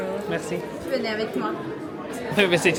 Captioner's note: cast Member replies in French